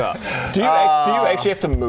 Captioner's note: proud sigh